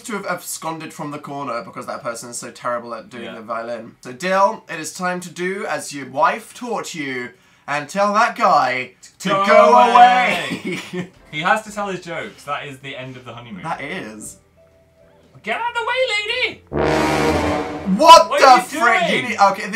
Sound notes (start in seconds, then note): 9.6 laughs; 16.7 suspense noise